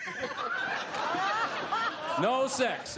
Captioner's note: laughter